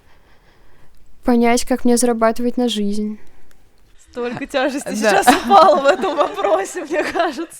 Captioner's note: смех